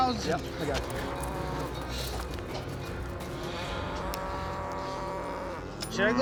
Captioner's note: cows mooing